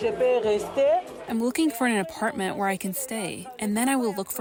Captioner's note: through translator